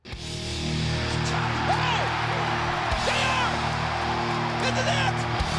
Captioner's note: audience cheering